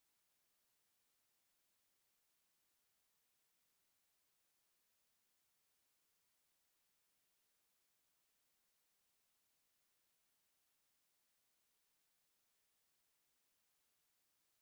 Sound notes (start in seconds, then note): none